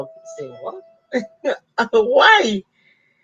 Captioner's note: laughs